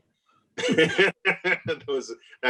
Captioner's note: laughs